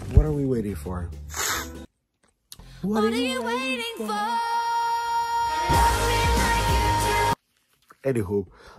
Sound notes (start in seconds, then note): 1.3 sniff